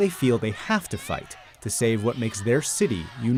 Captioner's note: protesting in chinese